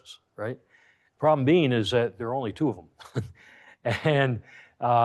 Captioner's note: chuckles